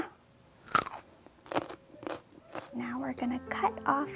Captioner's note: chewing